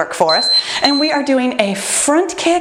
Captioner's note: timer beeping